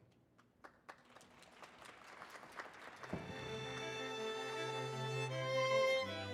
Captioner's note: audience applauding